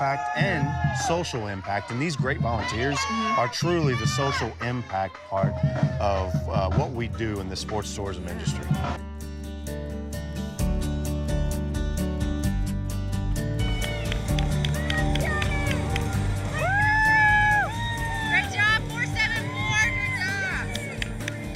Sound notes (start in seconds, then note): 13.6 crowd cheering